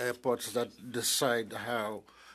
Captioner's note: speaking in French